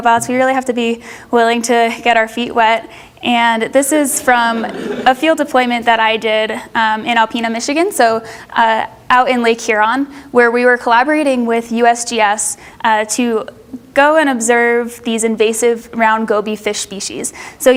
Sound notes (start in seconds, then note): 4.2 audience laughs